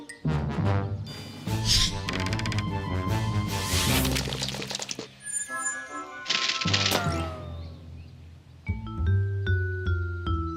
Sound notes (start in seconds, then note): 2.3 whooshing; 6.7 whizzing